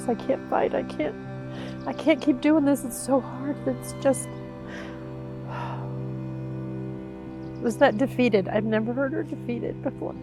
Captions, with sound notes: I can't fight, I can't, I can't keep doing this. It's so hard. It's just [exhales] she was that defeated I've never heard her defeat it before.